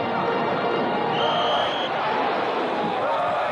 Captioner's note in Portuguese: Apito